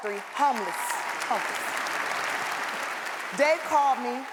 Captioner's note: audience applauds